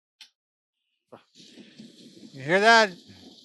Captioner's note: white noise